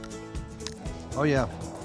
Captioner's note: crunch